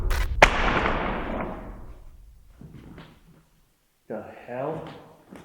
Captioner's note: bottle thuds; static crackles; bottle thuds